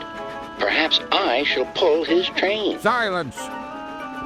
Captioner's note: through a voice box